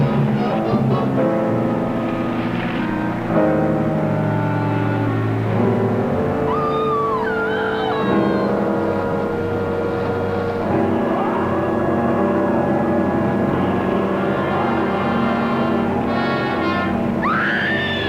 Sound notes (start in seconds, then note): 6.2 screaming; 17.0 screaming